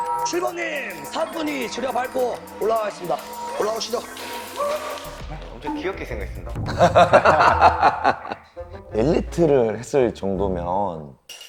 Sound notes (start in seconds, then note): 6.6 laughing